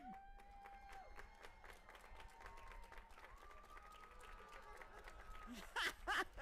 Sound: audience applauding and cheering; host laughing

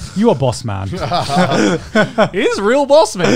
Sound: everyone laughs

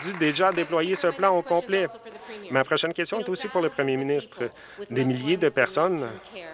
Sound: some Applause

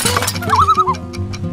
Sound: loon call

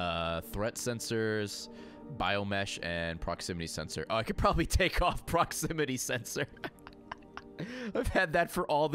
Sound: laughs

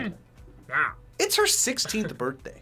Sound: laughs

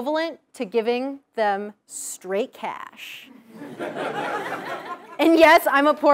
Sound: laugh

